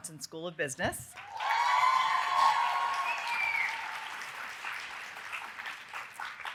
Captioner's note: audience cheering and applauding